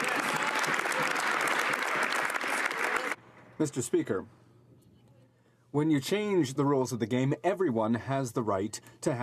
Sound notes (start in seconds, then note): 1.9 some Applause